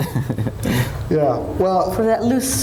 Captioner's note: laughs